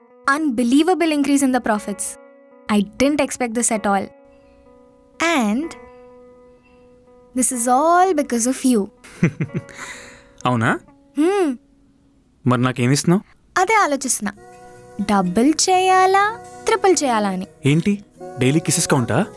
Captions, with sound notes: Unbelievable increase in the profits I didn't expect this at all and.. This is all because of you [Rahul chuckles] Is it? - Yes Then, What will you give to me? - That's what, I am thinking Planning whether to double or triple? What? Daily kisses count?